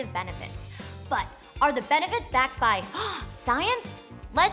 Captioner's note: gasp